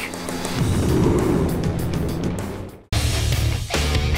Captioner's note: explosion; rock music begins